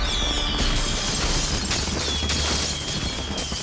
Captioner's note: fireworks exploding and whistling